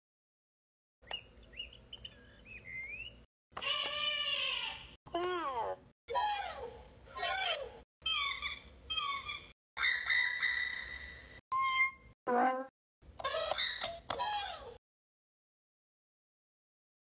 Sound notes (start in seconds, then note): 0.0 sound of children's toy